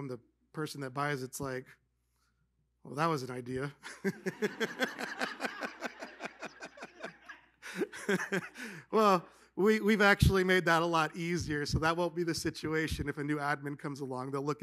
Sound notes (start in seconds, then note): 3.8 laughter